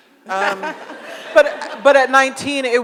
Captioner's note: audience laughs